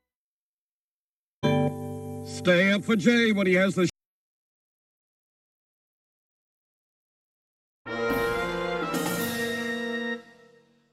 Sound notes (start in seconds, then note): 4.0 silence